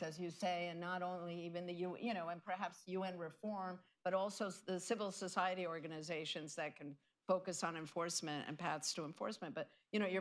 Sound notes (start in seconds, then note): none